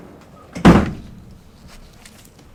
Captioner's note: door bangs